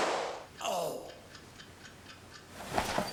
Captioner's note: exclaims